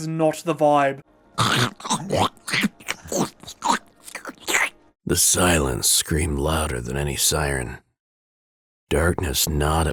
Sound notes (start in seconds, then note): 1.4 horrific mouth noises